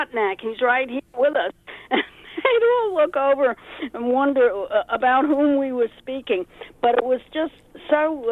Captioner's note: laughs